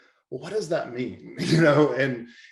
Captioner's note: chuckles